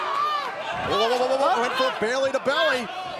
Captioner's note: screaming